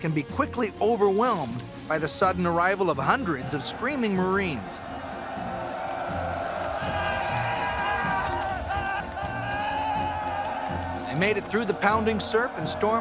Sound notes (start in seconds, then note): 4.4 shouting